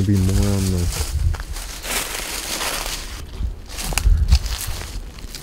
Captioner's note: foliage crackling